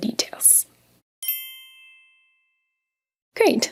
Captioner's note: bells chiming